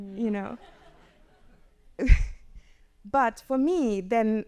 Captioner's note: audience chuckles